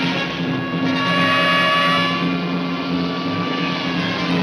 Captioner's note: tires screech